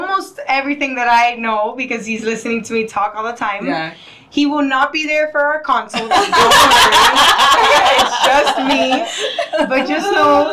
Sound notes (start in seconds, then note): 6.0 laughing